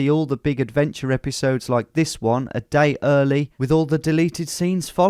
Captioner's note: none